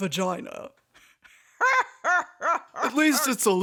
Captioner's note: cackles